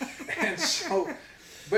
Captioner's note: both laugh